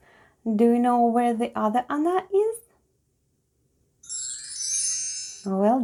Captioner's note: chimes sound